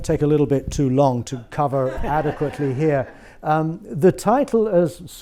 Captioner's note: audience laughs